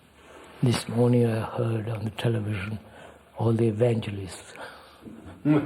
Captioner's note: laughs